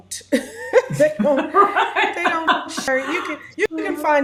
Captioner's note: laughs